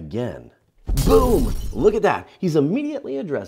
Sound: glass shattering

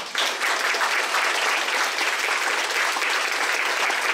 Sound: audience applause

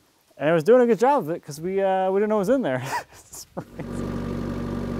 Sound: laughs

